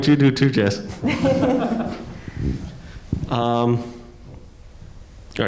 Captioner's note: panelists laughing